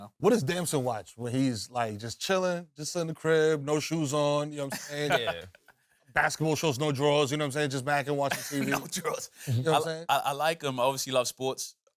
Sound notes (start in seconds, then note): 8.3 laughs